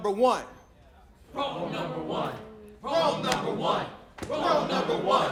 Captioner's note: crowd, chanting